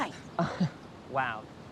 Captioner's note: Nigel chuckles